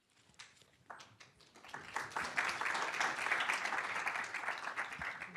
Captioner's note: applause